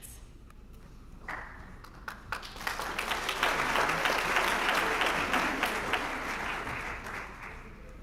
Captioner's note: applause